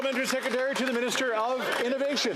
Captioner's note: some Applause